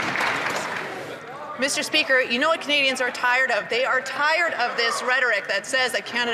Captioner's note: some Applause